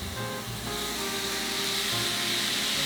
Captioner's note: sizzling